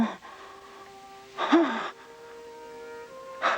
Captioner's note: gasping